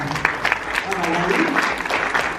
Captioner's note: applause